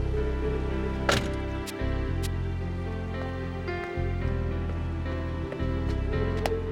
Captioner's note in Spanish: el teléfono se cierra; música suave; la puerta del auto se cierra